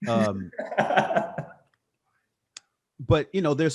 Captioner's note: laughing